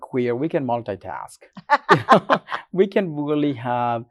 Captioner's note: laughs